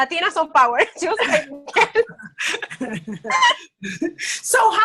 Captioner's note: both laughing